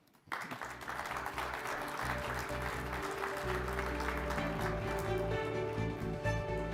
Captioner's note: audience applauding; triumphant music